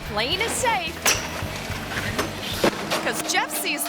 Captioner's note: bike thuds